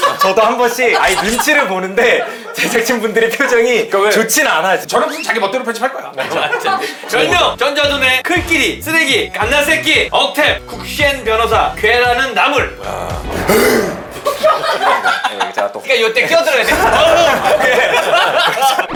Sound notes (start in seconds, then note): 13.1 roar!